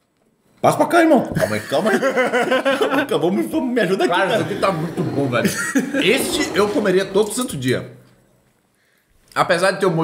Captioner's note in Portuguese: risos